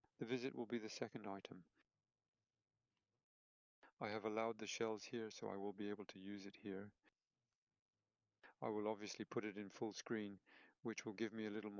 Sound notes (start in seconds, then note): 2.3 silence